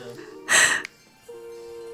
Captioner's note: laughs some more